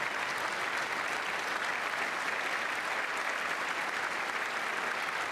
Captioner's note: applause